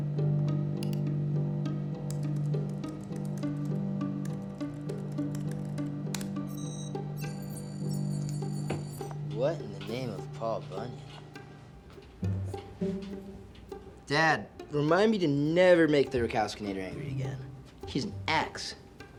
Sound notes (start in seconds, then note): 6.4 computer beeps